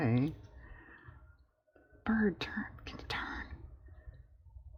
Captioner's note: whispers